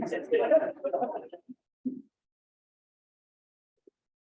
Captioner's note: room laughs